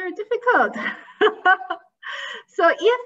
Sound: laughing

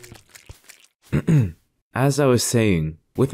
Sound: clearing throat

